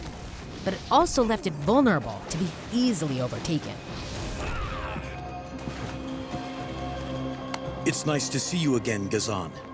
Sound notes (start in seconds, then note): 4.3 groaning